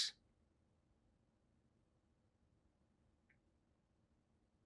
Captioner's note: pauses 6 seconds